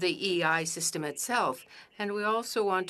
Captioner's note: speaking French